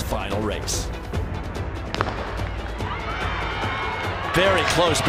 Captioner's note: crowd cheering